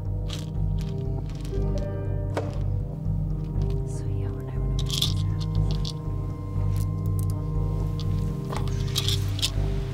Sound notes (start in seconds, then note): 0.2 pills rattling over ominous piano; 2.3 distant thwack; 4.7 pills rattling over muffled student chatter